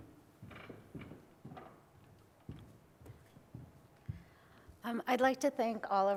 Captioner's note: footsteps